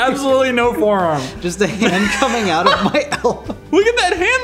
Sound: giggles

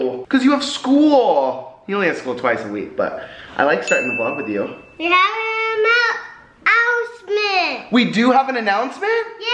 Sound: none

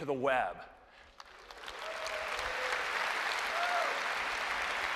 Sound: applause

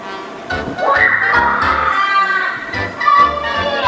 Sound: evil Assistant laughs evilly

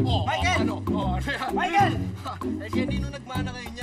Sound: Kanor scoffs

